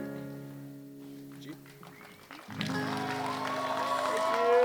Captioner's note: audience applauding